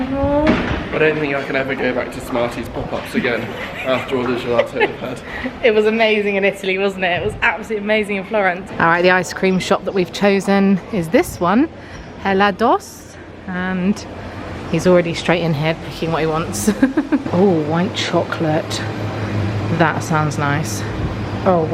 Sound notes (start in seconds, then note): 2.7 laughing; 16.6 chuckles